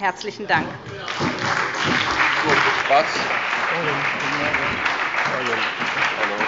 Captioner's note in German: Beifall bei der SPD und der FDP